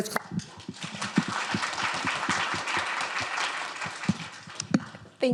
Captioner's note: applause